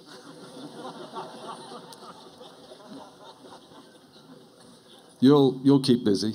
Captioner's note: laughter